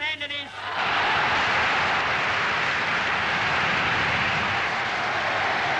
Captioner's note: Goebbels speaking in foreign language continues; crowd cheering and applauding